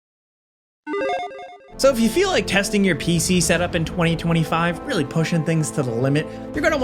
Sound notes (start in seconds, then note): 1.0 logo blips